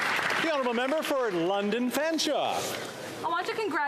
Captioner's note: some Applause